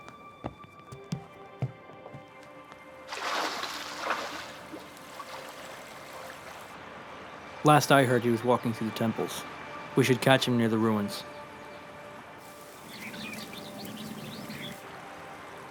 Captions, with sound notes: (light music) (fish splashing) - Last I heard he was walking through the temples. We should catch him near the ruins.